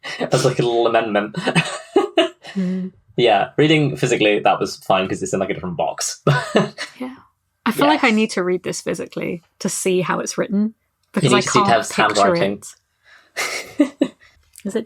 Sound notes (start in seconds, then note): 6.0 laughing